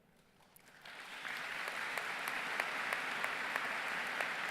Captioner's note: audience applause